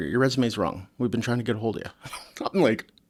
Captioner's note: laughs